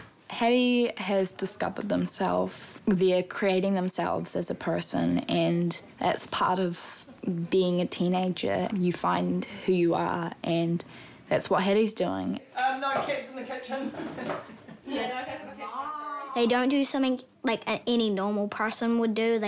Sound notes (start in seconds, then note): 13.8 chuckles